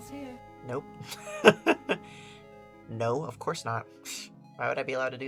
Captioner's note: laughs